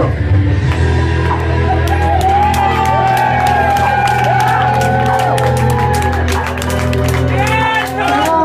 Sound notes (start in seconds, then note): 1.4 cheers